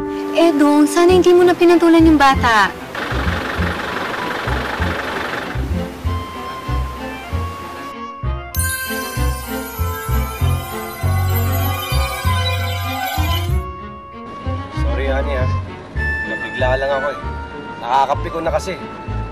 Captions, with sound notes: Edong, you shouldn't have paid attention to him. [car engine rattling] [tinkling] [tinkling] Sorry, honey. He just got to me. It's so irritating.